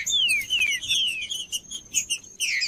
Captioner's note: trinca ferro cantando